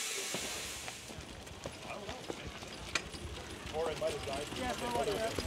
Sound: chatter

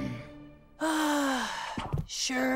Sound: sighing

